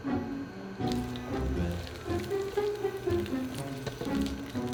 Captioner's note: sizzling